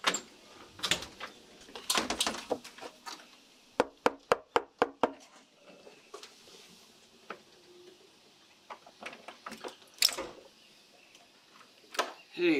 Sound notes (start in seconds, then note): 0.2 latch clicks; 3.8 knock taps; 10.0 door opens